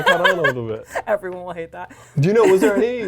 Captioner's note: laughs